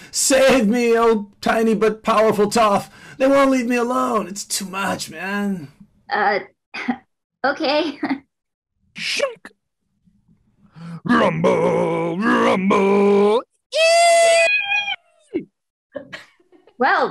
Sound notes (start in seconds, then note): 7.6 giggles; 13.7 fans screaming